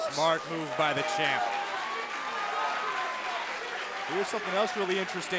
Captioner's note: crowd cheering